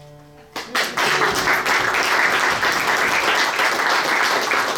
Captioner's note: audience applauds